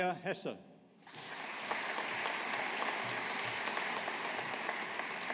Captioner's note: audience applauding